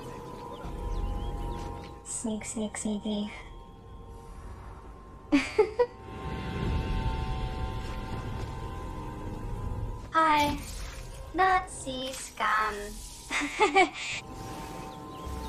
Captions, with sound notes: Sneak, sneak, sneaky. [Laughs] Hi! NAZI scum. [Laughs]